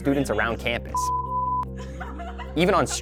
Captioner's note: tone beeping; student laughing